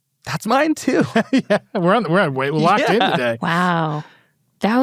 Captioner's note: laughs